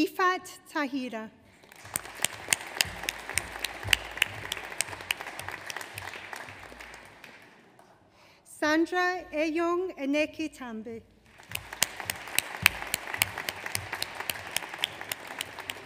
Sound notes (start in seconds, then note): 1.5 audience applauds; 11.2 audience applauds